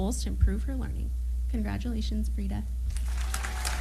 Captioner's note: applause